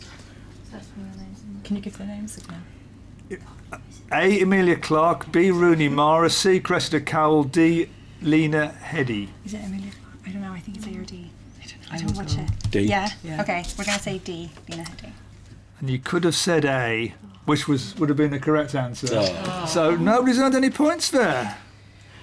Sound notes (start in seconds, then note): 19.1 oohing